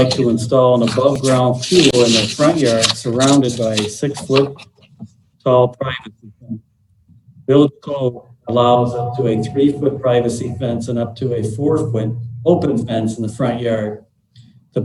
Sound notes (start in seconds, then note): 5.6 murmur